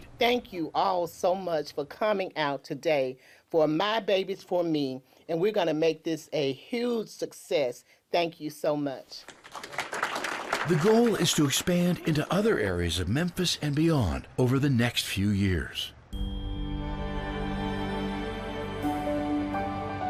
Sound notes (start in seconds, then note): 9.2 audience applauding; 16.1 gentle music